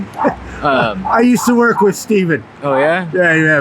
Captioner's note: chuckles